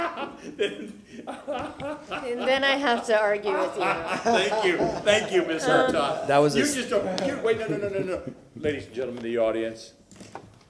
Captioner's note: laughter